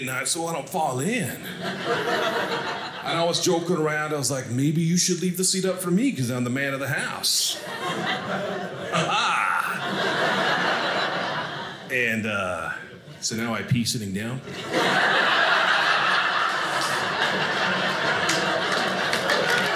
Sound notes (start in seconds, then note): 1.3 audience laughing; 7.4 audience laughing; 14.4 audience laughing; 19.5 audience applauding